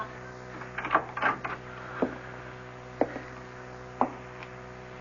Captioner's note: knocking